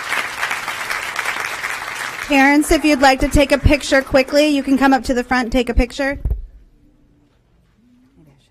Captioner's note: applause